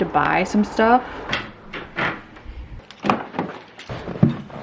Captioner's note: doors shut